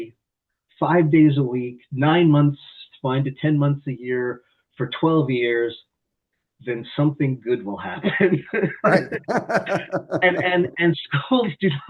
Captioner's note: laughter